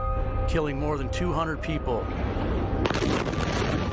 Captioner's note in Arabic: انفجار قوي